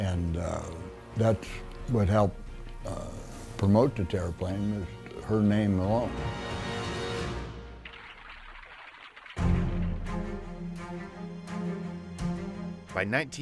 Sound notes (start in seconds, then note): 7.8 applause; 9.4 dramatic music